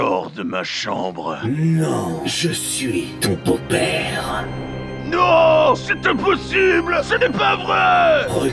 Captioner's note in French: voix de dark vador